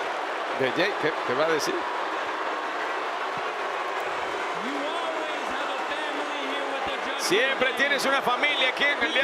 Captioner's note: applause